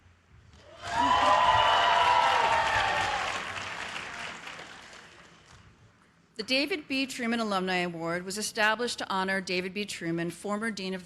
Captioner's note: cheers and applause